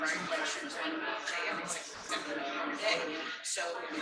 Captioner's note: people chattering indistinctly